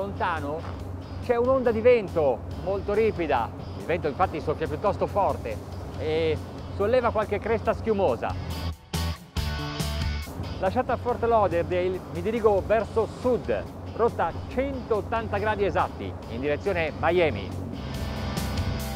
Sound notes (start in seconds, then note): 10.7 speaking in foreign language